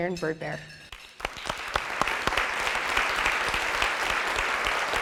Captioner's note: audience applauding